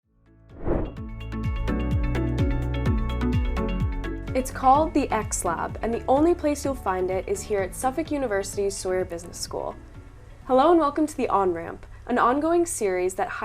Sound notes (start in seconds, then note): 0.5 air whooshing; 1.5 upbeat music